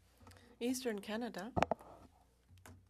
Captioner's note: speaking french